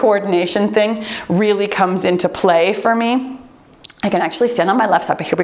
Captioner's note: timer beeps